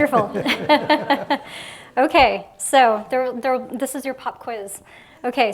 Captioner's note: laughs